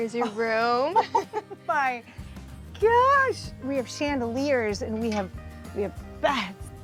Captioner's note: laughing